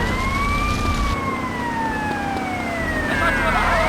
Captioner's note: tires squealing